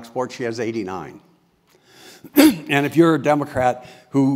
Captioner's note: cough